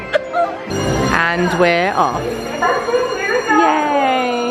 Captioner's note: laughing; bell ringing